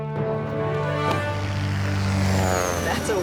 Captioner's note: airplane roaring